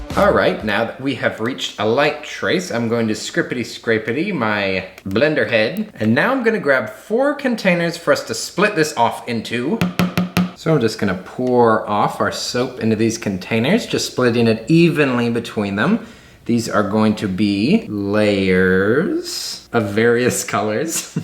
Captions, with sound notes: All right, now that we have reached a light trace. I'm going to scripitty scrapetty my blender head. And now I'm gonna grab four containers for us to split this off into. (taps blender) so I'm just gonna pour our soap into these containers. Just splitting it evenly between them. These are going to be layers of various colors.